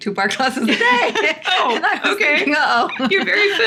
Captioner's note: laughing